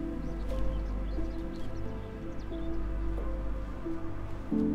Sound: birds chirping

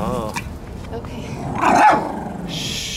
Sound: growl; bark

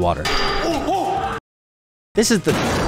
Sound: metal clanks; man yells

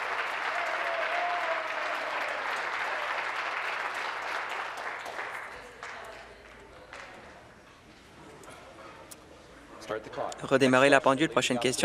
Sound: applause

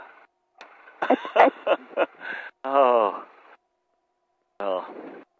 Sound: Tom laughing

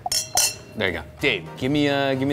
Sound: glasses clink

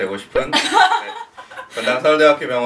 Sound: laughter

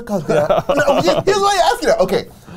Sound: laughs

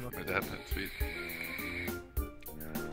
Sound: vaping

